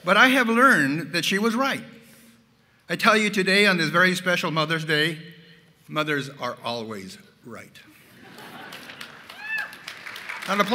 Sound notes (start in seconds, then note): 8.3 applause